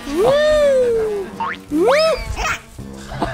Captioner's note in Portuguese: A água espirra